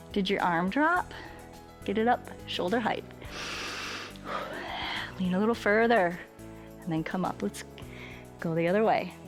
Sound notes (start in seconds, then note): 3.2 inhales and exhales